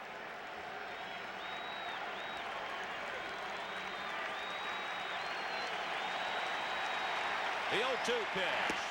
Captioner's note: applause